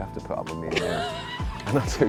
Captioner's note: laughter